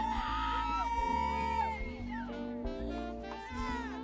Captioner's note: people cheering